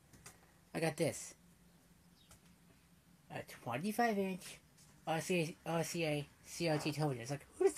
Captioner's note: stammers